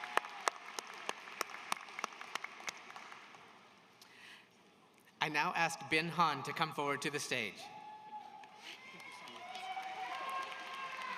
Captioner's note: applause